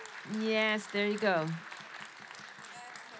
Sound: applause

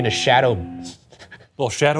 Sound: chuckles

